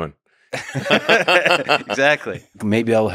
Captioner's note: both laughing